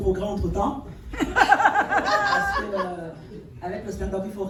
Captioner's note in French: rires